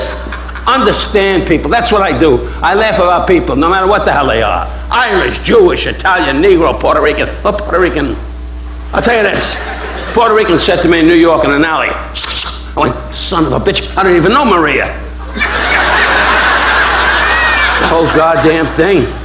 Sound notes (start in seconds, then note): 11.7 imitates swishing; 15.2 audience laughing